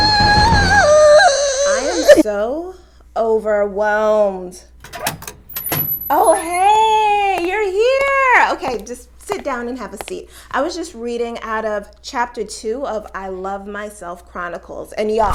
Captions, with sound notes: (Crying) I am so overwhelmed. Oh hey you're here. Okay just sit down and have a seat. I was just reading out of chapter two of I Love Myself Chronicles and y'all